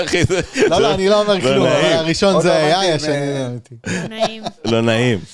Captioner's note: laugh